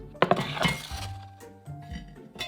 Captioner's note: pot sliding